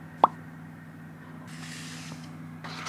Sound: smooth paper sounds

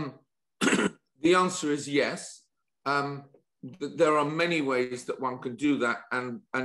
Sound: cough

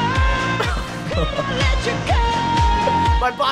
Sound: laughing

